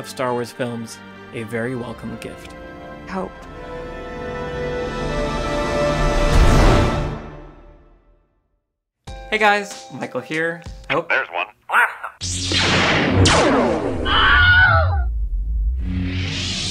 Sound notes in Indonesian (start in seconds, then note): 14.0 teriakan